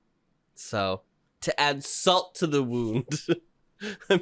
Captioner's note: laughs